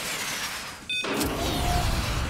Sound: beeps

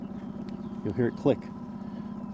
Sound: click

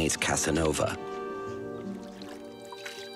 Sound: water splashing

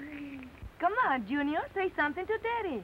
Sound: baby noises

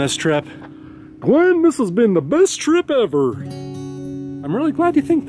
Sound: deeper voice

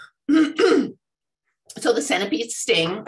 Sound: clears throat

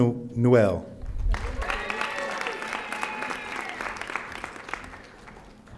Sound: audience applauding

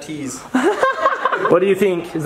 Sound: laughs

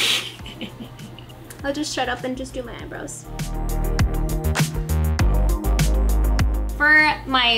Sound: chuckle

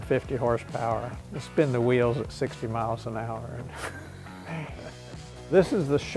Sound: laughs

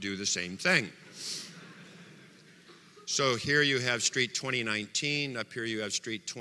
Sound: audience laughter

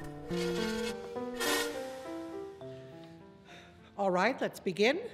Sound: chair scraping the stage

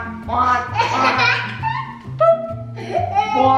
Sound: laughing

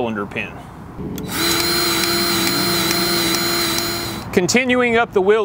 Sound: grease gun revving

